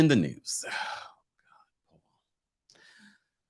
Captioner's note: sighs